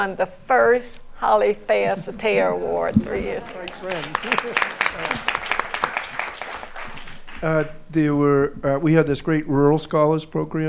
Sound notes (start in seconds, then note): 3.0 applause